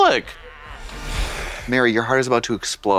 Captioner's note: snorts